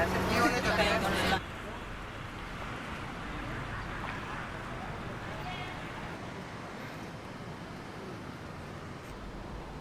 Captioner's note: street Ambience